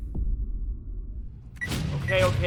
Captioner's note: loud booming